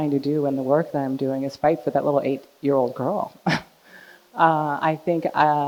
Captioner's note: chuckles